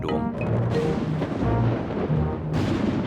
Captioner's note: thunder rumbles